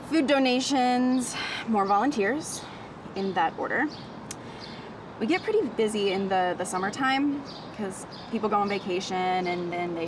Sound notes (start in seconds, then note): none